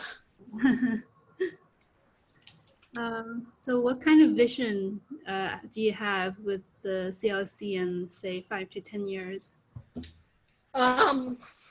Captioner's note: laughs